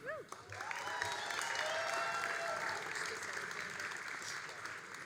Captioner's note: all applauding and cheering